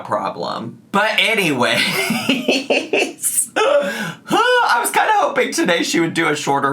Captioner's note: laughs